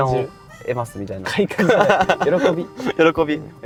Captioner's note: laughs